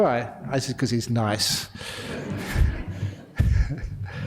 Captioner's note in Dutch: lachen